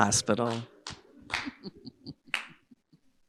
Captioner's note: chuckles